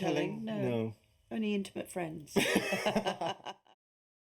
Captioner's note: laughter